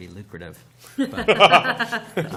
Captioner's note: laughter